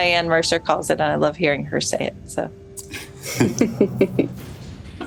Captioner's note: chuckles